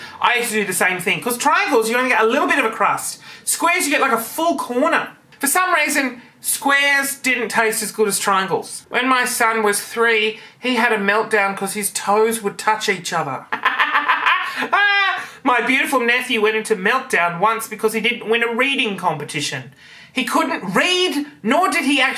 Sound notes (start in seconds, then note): 13.5 laughing